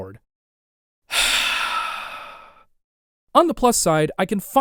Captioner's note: heavy sigh